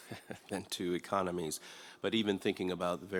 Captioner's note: chuckles